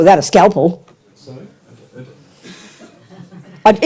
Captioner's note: audience member speaks in French